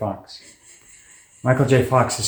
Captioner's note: chuckles